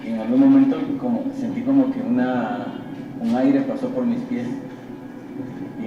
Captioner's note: speaking in foreign language